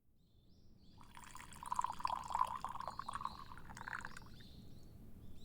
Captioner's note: tea pouring sounds